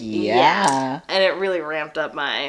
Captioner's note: more Baby Geese babbling